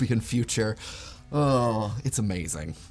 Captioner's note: groans